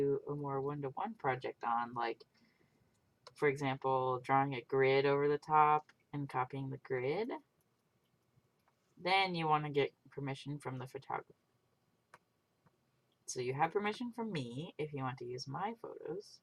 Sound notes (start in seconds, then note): none